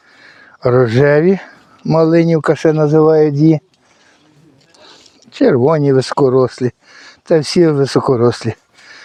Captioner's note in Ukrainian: сопіння